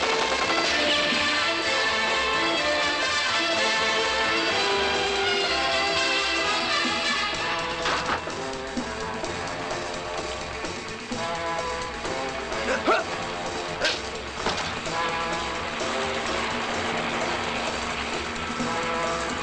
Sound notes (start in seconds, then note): 12.6 man grunts; 14.9 helicopter blades whirring